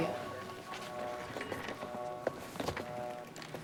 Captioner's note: footstep